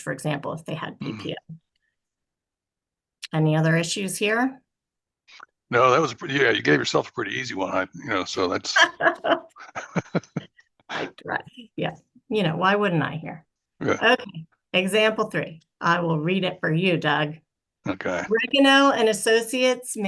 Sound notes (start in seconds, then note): 8.7 laughs